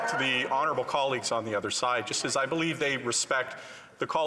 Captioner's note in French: voix de l'interprète